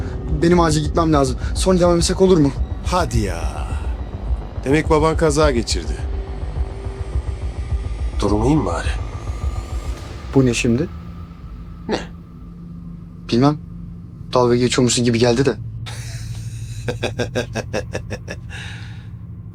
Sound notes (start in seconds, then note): 15.8 chuckles